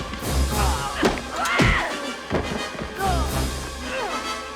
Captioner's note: yells